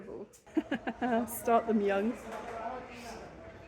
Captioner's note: laughing